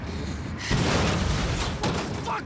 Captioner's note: car cranks and clangs